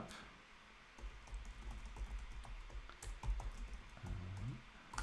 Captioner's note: keyboard clicking